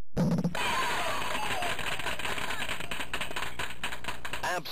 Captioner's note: spectators cheering and applauding